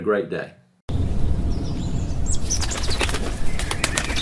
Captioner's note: birds chirping